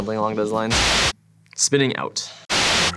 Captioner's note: white noise